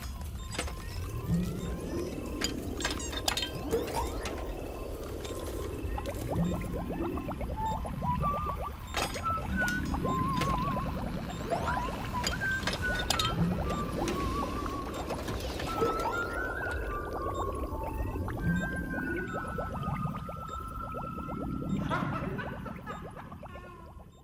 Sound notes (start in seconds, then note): 0.0 electronic whirring; 7.3 whistling; 21.8 cackles